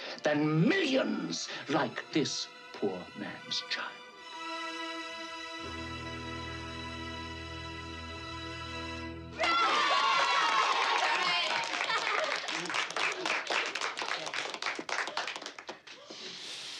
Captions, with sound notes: ...than millions like this poor man's child. [CHEERlNG]